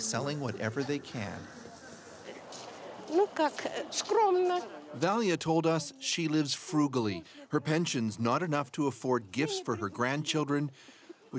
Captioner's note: speaking russian